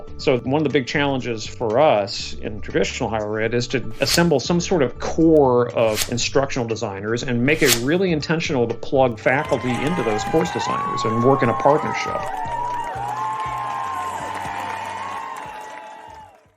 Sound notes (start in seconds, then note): 12.5 group cheering